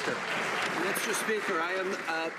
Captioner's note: some Applause